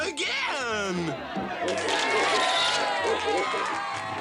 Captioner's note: audience cheers